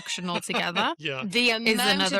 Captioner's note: laughs